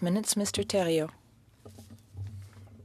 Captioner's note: speaking French